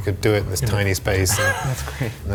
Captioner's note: laughing